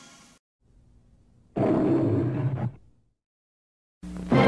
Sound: Leo the Lion roaring

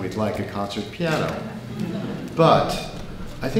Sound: people laughing

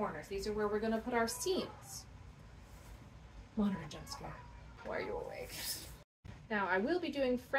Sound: crying sound

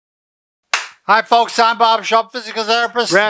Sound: claps

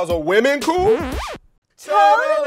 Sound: record scratch

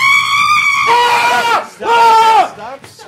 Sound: screaming

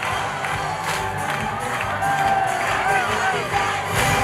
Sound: cheers

